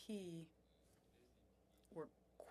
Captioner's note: speaking French